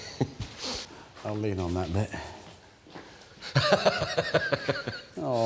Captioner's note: laughs